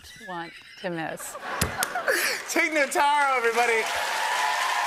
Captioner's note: laughter; cheers and applause